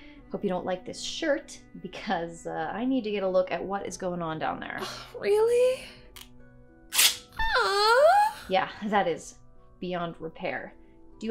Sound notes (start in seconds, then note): 6.9 ripping; 7.4 crying